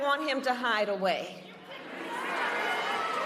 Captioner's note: crowd booing